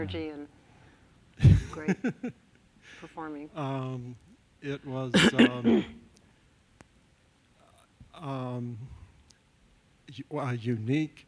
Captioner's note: laughs